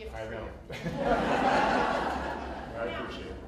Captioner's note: laughter